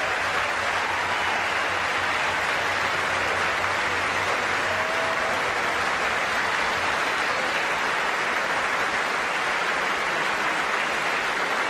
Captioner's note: applause